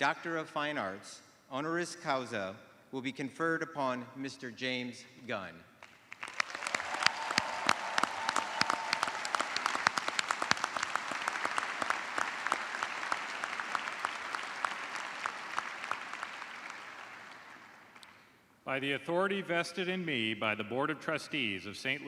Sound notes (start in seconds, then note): 4.3 cheers and applause